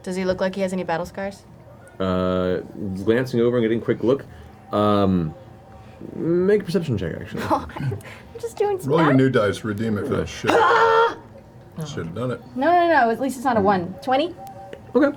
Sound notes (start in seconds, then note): 10.4 yells